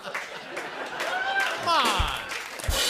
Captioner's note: laughter and applause; cheering; rimshot